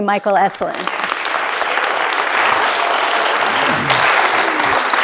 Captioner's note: audience applauding